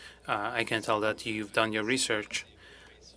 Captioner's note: speaking french